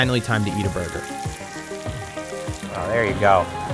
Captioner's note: sizzling